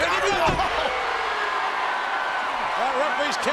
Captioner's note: audience cheering